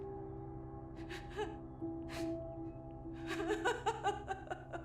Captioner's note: Cleopatra sobbing